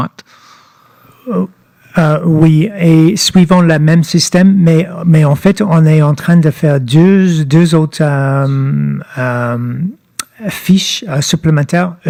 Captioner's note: speaking French